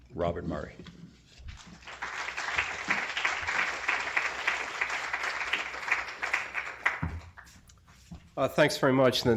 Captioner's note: applause